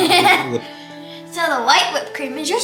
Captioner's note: laughs